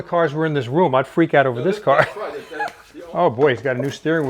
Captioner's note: laughs